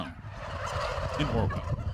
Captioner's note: turkeys gobbling